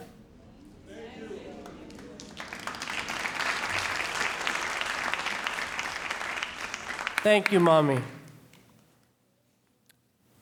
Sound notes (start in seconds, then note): 3.3 audience applauding